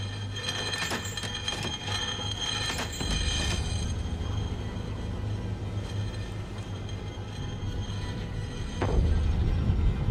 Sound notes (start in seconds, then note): 1.3 metal clanging